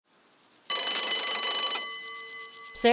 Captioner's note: bell ringing